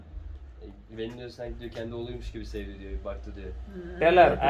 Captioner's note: speaking in foreign language